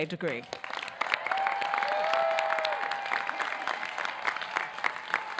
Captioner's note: audience clapping